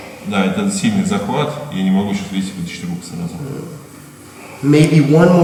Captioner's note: speaking in a foreign language